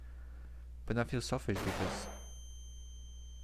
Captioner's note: flashbang